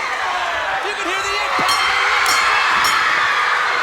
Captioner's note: bell rings; crowd cheers